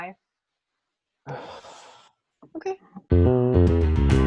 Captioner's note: mac sighs; funky bass theme riff